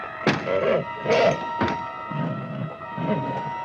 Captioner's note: door banging; horse grunting